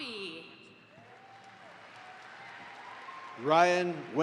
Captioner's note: audience applauds